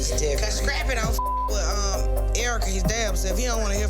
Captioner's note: beep